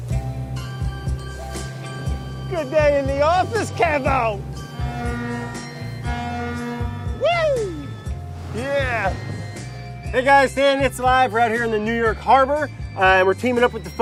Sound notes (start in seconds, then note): 0.2 upbeat music; 5.0 boat horn